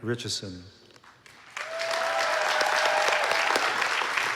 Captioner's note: applause